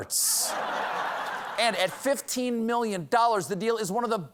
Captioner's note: laughter